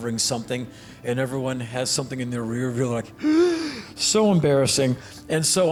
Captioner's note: gasp